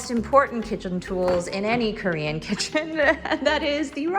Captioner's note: laughs